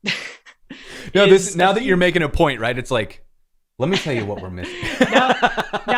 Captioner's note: laughter